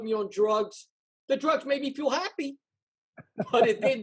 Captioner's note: laughs